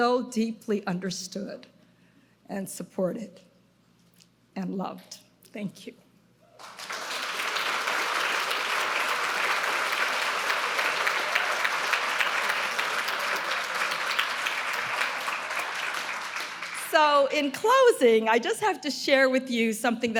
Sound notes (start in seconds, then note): 7.6 audience applauding